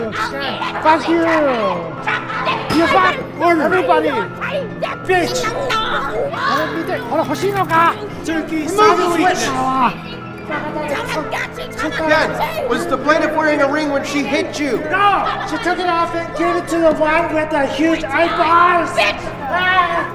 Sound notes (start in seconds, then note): 0.2 screaming insults; 5.7 screaming; 6.8 shouting in Japanese; 9.9 shouting insults, chaotic music; 14.7 Phoebe yelling